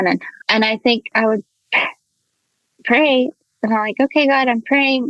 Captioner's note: sighs